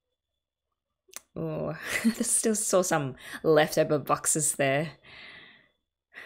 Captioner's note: laughs